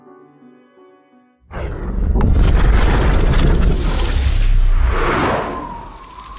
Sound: whooshing

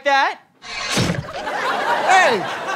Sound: guillotine chop

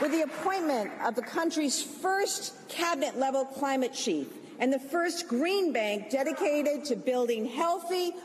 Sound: applause

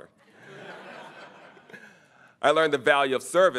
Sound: audience chuckling

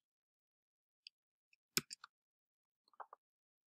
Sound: clicking on the keyboard

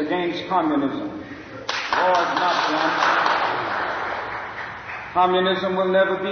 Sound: applause

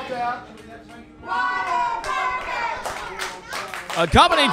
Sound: fans cheering and clapping

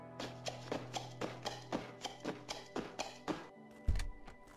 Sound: door opening

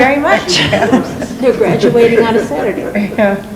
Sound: laughs

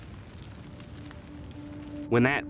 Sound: fire crackling; ethereal music

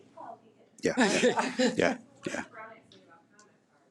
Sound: laughing

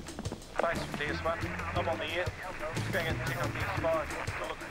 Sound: police radio crackles

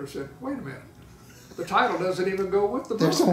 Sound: laughing

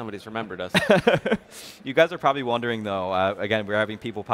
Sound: laughs

